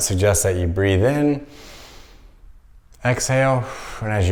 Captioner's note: inhaling; exhaling